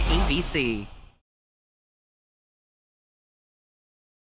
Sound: silence

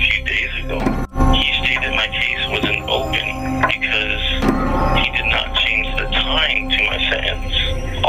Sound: distorted grandfather bell chimes

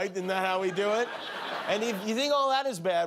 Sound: laughter

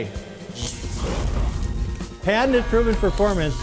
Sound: electricity sparking and fire crackling

